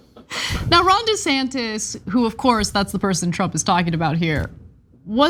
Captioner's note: laugh